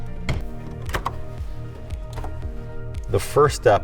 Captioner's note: clamps snapping